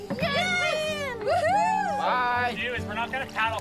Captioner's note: boaters celebrating